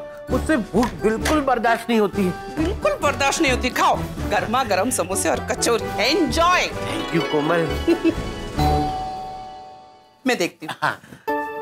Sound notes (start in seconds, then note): 8.5 doorbell ringing